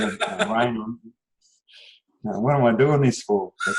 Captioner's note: laughs